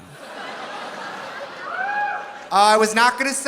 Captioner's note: audience laughing